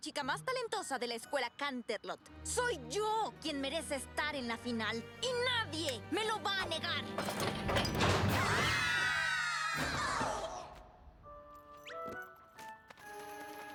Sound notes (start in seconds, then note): 9.9 crash